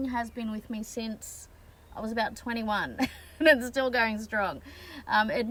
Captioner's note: laughing